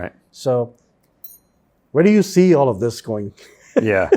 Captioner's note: laughs